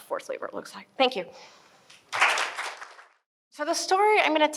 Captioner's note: audience applause